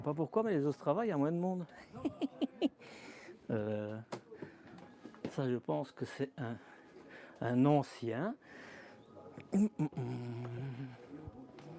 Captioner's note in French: rires